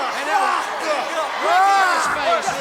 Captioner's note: Sting screams